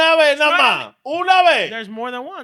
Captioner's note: speaking In Foreign Language